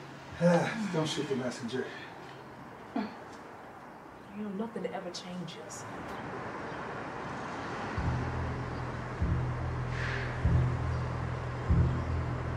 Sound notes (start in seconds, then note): 0.3 sighs; 7.8 suspenseful music crescendos